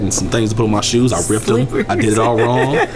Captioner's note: laughs